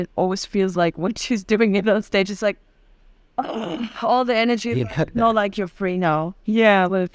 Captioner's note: ugh